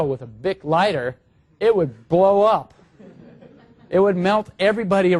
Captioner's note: laugh